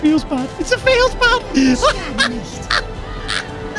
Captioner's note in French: rire de fou